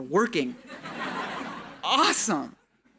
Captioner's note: audience laughing